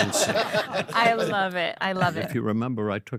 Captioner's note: all laugh